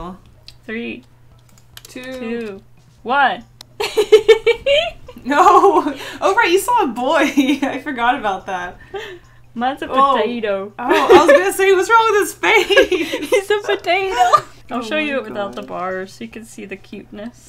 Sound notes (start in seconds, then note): 3.7 giggles; 12.6 both Laugh